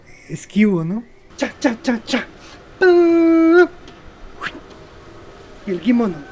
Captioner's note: animated puppet sound, humming